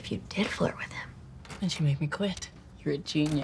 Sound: door opens; door closes

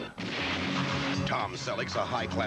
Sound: explosion

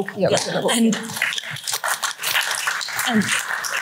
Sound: applause

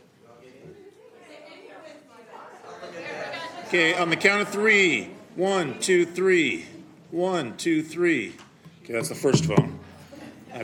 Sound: background chatter

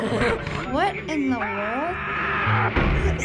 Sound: laughs; Barbarian yells; laughs

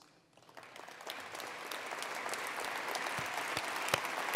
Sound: attendees applauding

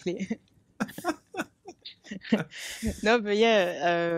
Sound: laughing

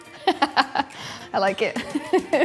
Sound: laughs

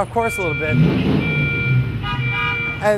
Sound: car engine revs, horn honks

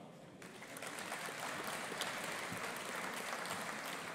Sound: audience applauding

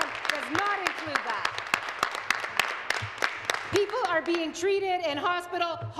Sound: applause

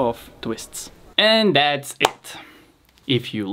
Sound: hands clap

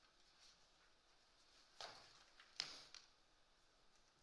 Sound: paper rustling

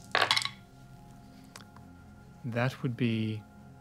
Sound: dice rattling; dice rattling onto the table

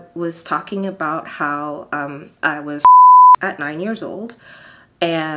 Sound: beep

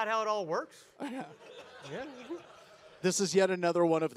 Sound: audience laugh

